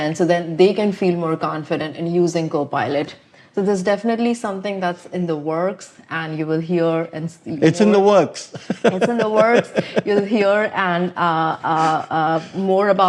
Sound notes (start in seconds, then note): 8.5 laughs